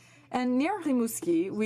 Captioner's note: speaking in french